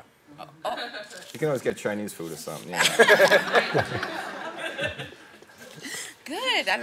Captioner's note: everyone laughing